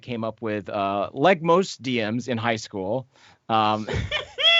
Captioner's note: laughs